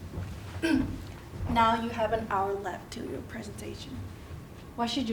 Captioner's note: cough